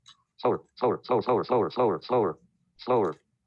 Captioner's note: automated Voice